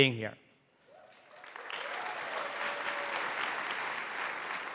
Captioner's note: audience applauding